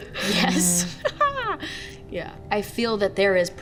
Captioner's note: laughs